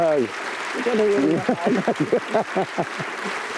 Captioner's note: laughs; applause continues